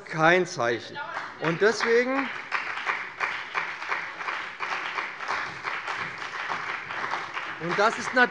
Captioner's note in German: Beifall bei dem BÜNDNIS 90/DIE GRÜNEN und der CDU